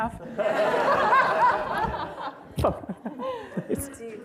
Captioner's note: laughter